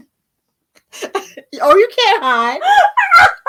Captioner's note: hiding behind the book and laughing hysterically